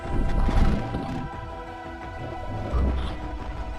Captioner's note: Scarlet panting eerily